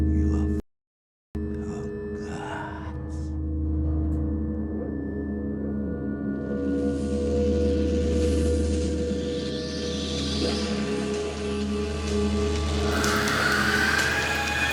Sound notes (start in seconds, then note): 10.8 white noise